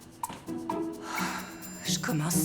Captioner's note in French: soupirs